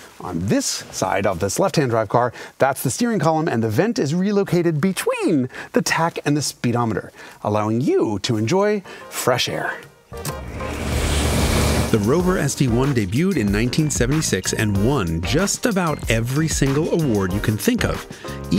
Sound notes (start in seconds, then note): 10.4 wind blowing